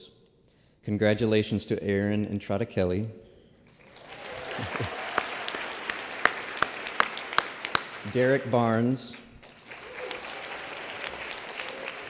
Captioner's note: applause